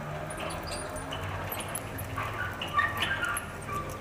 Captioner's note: wheel squeaking